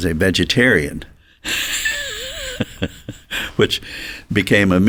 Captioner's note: chuckles